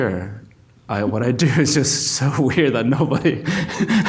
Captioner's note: laughs